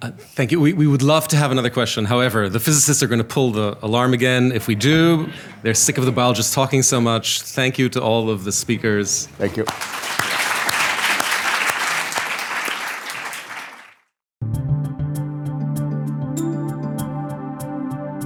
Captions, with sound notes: - Thank you. We would love to have another question. However, the physicists are going to pull the alarm again if we do. They're sick of the bio just talking so much. Thank you to all of the speakers. - Thank you. (audience applauding) (light music)